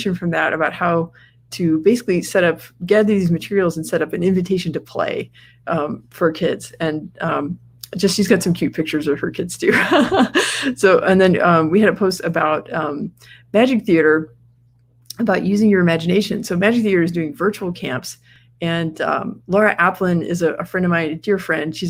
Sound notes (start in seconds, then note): 9.7 laughs